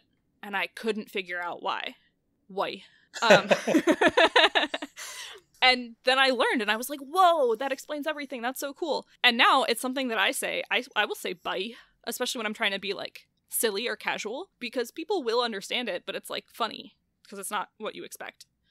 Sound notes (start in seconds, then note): 3.2 laugh